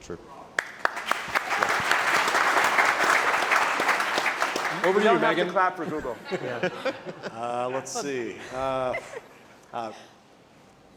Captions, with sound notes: - Yeah, agreed, true. (audience applauding) - You don't have to clap for Google. - Let's see.